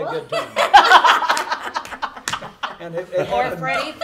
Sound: group laughing

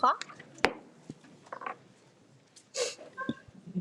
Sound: gavel taps

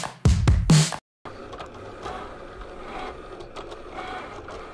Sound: machine whirring

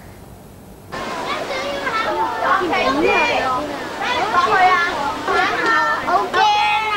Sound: playful shouting

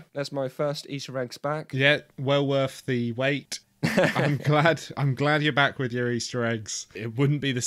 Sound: laughs

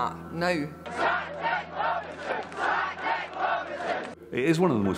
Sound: crowd

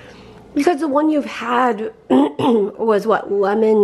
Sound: clears throat

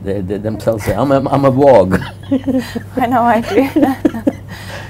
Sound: laughs

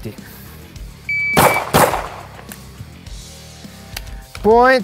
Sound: timer beeps; gun bangs; upbeat rock music continues

